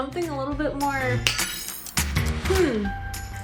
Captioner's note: snap